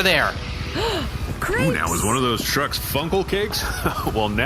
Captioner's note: gasp